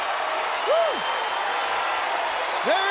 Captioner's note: applause